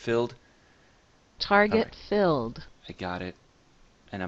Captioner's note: Target filled sound plays